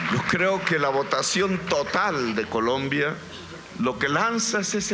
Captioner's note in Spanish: Aplausos